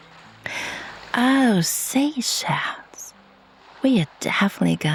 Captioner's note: sighs